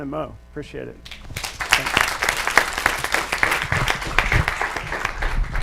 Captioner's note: audience applauds